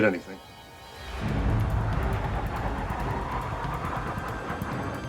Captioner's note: F-16 whooshing